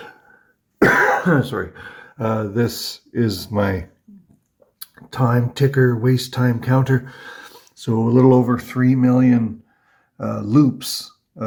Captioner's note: coughs